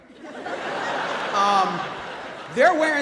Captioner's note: audience laughs